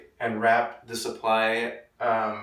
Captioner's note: none